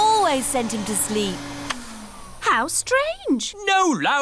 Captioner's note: whirring stops